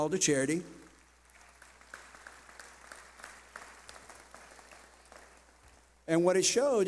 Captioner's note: clapping